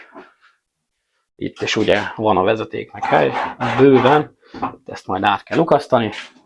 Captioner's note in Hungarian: horkantás